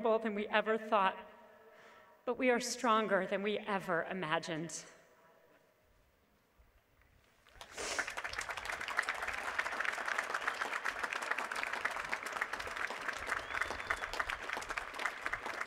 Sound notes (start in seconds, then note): 7.4 applause